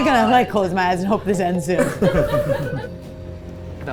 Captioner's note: crew laughing; tense music